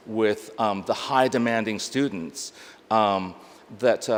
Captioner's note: none